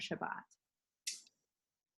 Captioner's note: speaking in foreign language